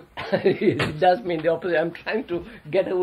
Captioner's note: laughs